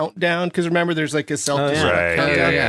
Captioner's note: agreeing noises